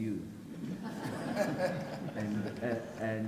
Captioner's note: people laugh